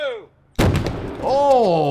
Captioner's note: explosion banging